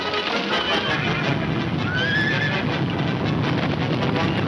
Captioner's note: stampede rumbling